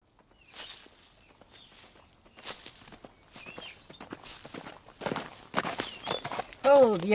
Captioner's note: footsteps, then horse hooves approaching